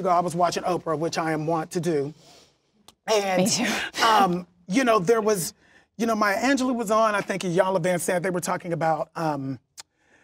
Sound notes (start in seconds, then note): none